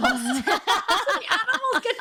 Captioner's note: both laughing